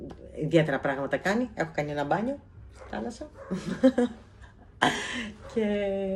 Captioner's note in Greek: γέλια